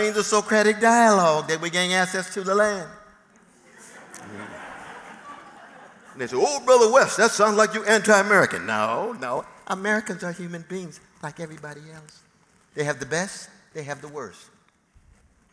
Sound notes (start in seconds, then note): 3.7 laughter